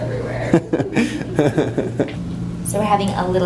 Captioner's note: laughs